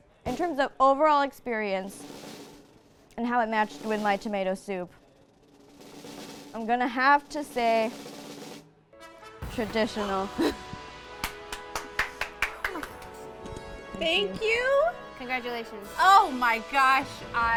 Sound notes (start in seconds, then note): 2.3 drum rolls; 10.0 triumphant music; 11.2 clapping